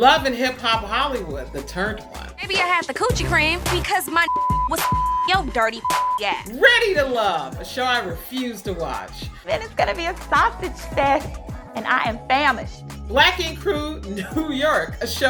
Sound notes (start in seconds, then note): 4.2 beep